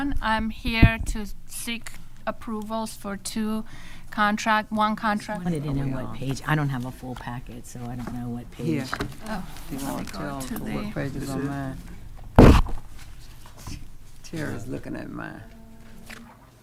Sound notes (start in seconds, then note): 11.8 microphone feedback